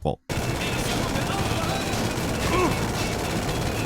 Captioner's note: guns fire